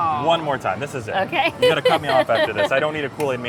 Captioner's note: laughs